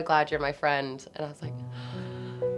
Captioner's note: somber music; gasps